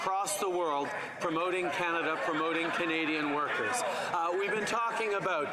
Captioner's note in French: voix de l'interprète